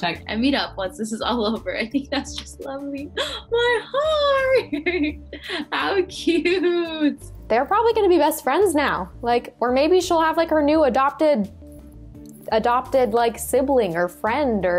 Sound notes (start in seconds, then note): 3.6 chuckles